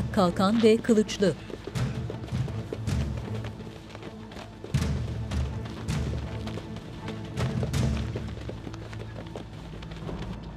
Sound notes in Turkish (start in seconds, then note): 2.4 Ayak sesleri; 2.4 Müzik - Gerilim